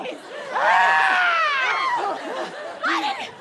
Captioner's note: screams